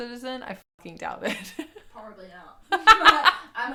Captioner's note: laughs